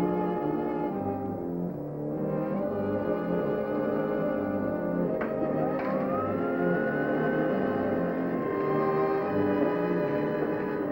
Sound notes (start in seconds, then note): 5.1 machine whirring